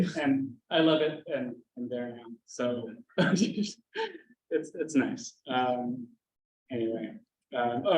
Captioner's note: chuckle